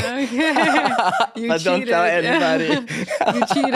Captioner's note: both laughing